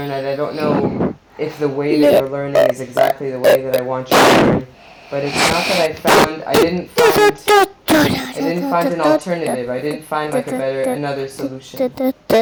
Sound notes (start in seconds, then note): 6.7 making noise into microphone; 12.2 sings loudly into microphone